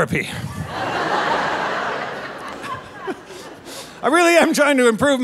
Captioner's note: audience laughing